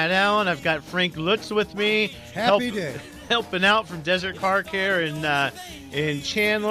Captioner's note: laughs